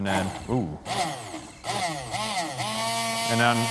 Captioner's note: grinding